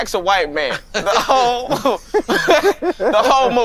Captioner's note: laughing